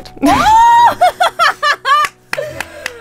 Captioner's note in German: Lachen